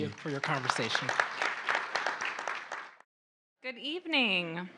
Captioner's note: audience applauding